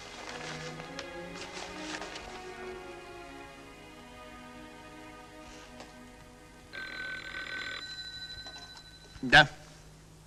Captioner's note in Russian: лирическая музыка; звонок